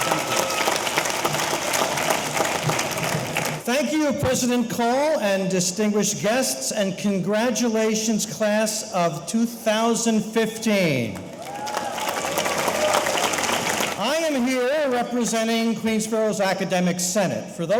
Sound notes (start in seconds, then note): 11.2 audience applauding; 11.3 audience cheering